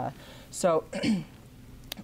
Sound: clears throat

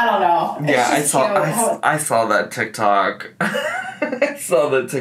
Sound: laughs

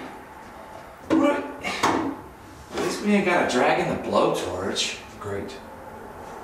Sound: sighs

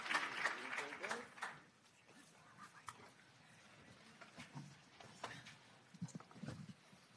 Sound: objects clattering

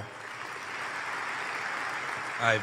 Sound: applause

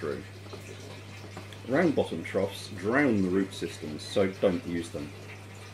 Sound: water trickling

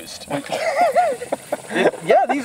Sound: laughs

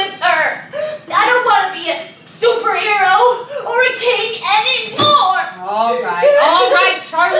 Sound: sobs

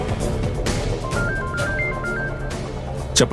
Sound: phone Ringing

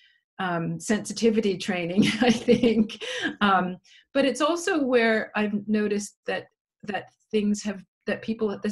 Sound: laughs

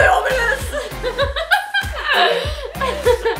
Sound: laughs

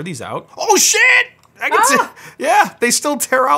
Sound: screams

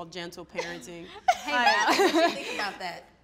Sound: laughing

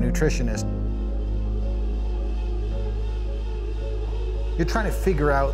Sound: exercise bike whirs

